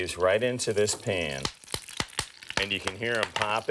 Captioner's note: oil popping